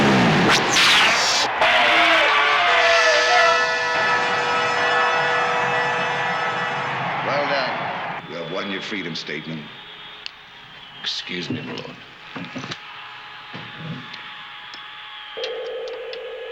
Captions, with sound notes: (zapping) (cheering) Well done, you have won your freedom, Stateman. Excuse me, my lord.